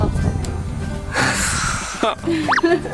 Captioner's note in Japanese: 笑っている